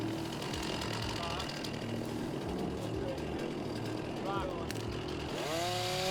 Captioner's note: engine sounds